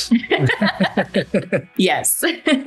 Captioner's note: both laughing